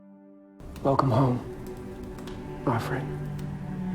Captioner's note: voiceover